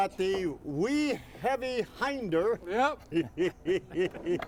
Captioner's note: laughing